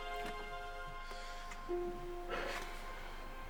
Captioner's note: deep breathing